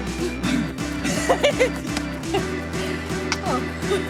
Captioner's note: laughs